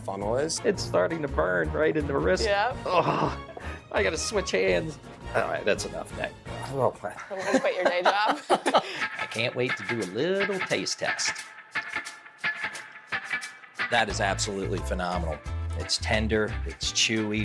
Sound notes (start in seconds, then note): 7.2 laughing; 11.2 upbeat music